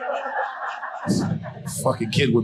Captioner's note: audience laughing